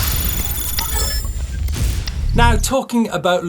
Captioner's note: electronic dinging